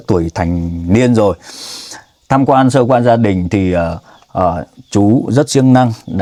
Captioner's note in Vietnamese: khịt mũi